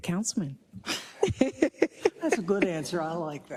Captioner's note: laugh